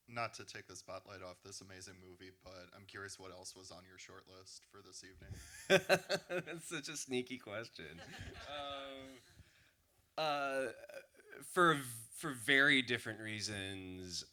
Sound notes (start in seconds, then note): 5.3 laughs; 7.8 laughter